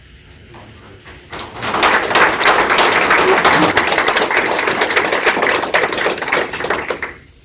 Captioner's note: applause